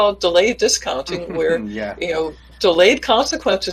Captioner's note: laughs